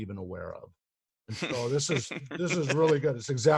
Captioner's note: laughs